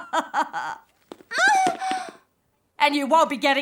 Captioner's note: Nellie groaning